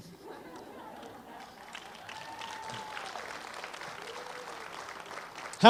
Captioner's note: applause